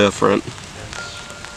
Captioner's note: whispers